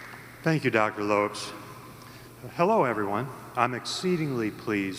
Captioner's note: applause